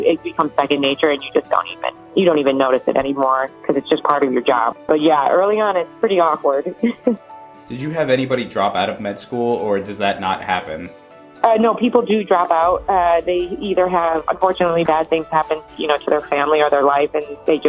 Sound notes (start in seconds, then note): 6.8 she chuckles